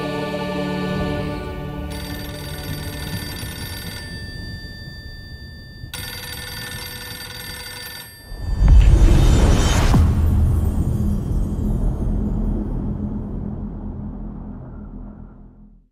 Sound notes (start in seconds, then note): 1.8 phone ringing; 8.3 dramatic sound